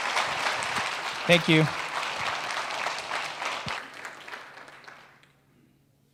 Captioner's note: clapping